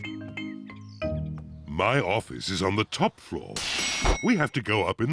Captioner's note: elevator bell dings